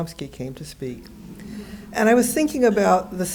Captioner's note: audience laughing